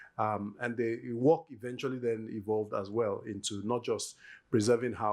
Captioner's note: yoruba